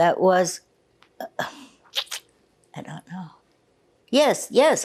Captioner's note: sighing